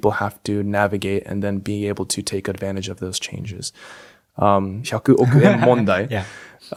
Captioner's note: laughs